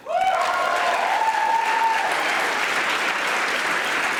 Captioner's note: audience applauding